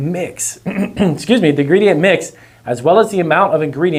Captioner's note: clears throat